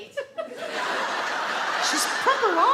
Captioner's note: audience laugh